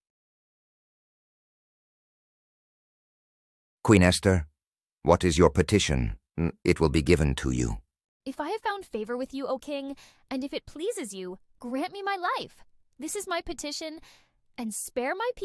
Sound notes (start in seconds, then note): 10.0 taking a deep breath